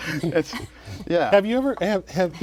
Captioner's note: laughter